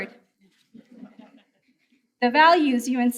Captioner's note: audience chuckles